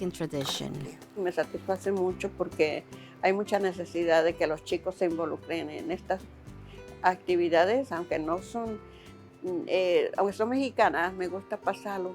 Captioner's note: speaking Spanish